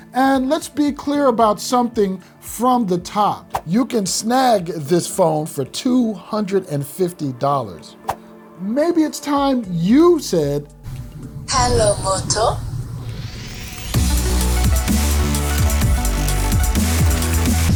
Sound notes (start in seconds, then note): 11.7 electronic Female Voice; 13.3 upbeat electronic music